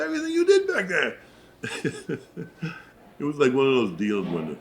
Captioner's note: laughs